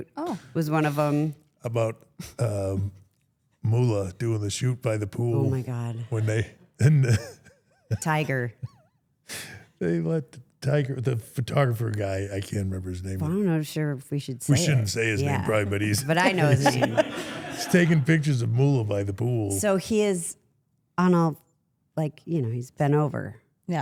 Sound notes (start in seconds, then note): 6.8 chuckles